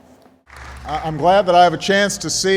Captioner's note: applause